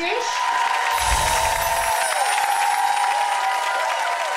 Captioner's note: audience Applause